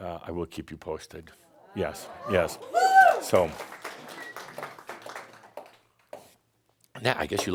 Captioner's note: someone shouts “Woo!” and more applause